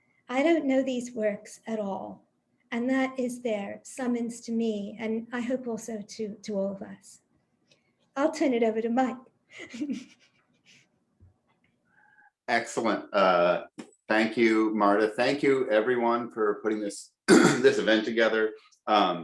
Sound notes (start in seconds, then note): 9.5 laughs